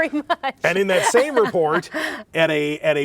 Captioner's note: laughing